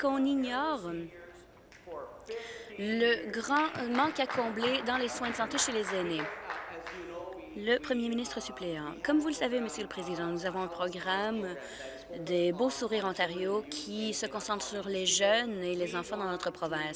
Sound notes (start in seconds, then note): 6.6 applause